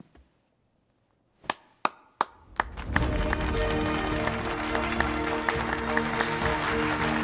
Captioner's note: Clapping